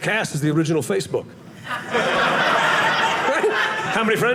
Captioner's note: audience laughing